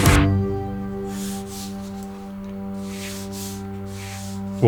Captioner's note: gentle music; paper rattling